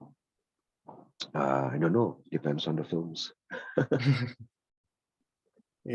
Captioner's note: laughs